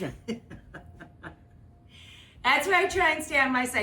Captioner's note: Rachael laughing